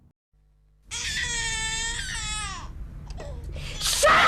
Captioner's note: baby crying